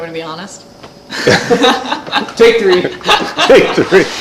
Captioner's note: laughs